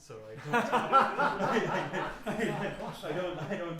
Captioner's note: laughing